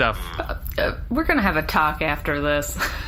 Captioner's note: drops stilted voice